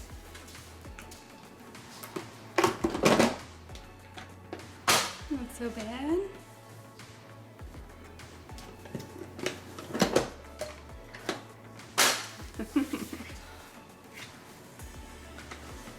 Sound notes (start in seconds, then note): 12.5 giggles